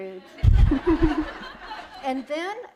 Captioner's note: laughter